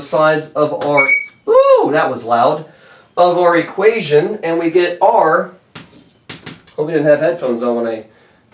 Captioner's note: chalk board squeaks